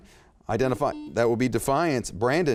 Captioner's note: beep